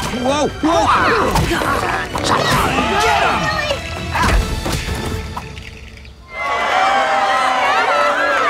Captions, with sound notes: Whoa! Whoa! Get ‘em! [all grunting] [all cheering]